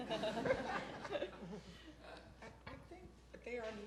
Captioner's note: crowd laughing